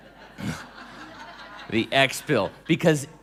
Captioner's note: laughing